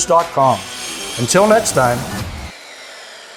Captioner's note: saw whirring